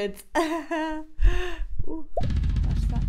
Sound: laughs

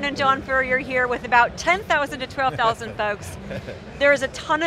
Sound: chuckles

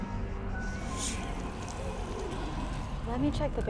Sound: ghostly whispering

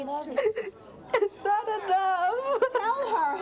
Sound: sobs

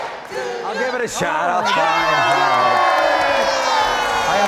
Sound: all cheering

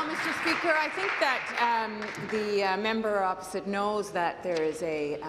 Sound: applause

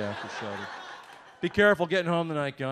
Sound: audience laughs

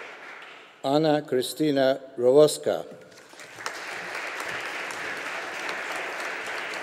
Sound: audience applauding

